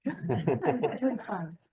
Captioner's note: people laughing